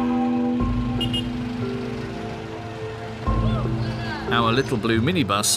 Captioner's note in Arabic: صوت بوق السيارة